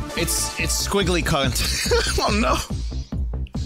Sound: laughs

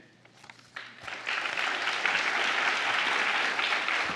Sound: applause

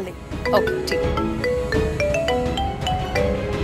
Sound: mobile ringing

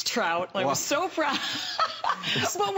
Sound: laughter

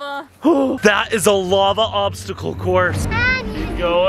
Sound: gasps; dramatic orchestral music

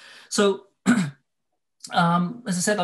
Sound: clears throat

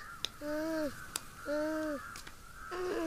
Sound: moans

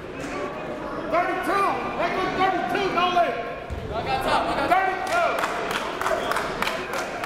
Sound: crowd talking; coaches yelling

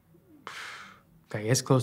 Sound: puffs

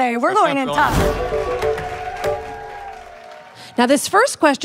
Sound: audience applauding

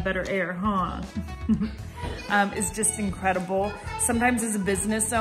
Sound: laugh

